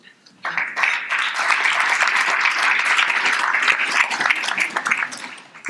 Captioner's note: audience applauding